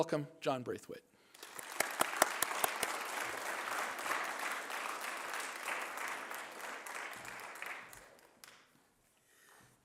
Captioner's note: applause